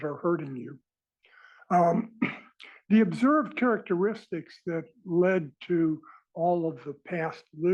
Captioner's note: cough